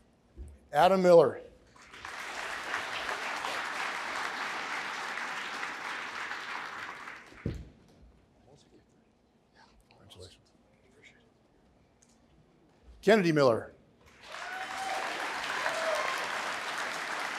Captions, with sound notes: Adam Miller. (applause) Kennedy Miller. (applause)